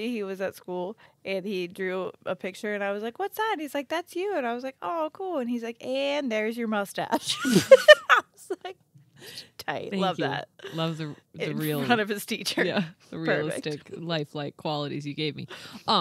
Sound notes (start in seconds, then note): 7.2 group laughs